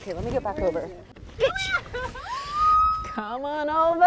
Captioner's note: laughs and screams